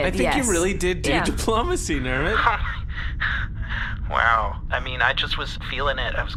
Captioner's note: laughs